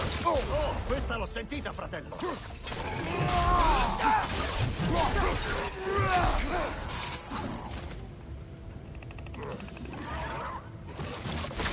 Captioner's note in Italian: gemito